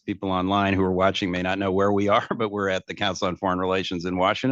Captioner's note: laughs